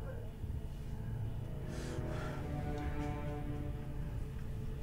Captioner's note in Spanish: Sollozando